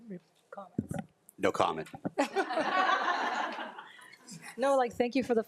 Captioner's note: group laughs